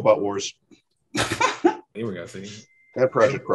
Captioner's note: laughing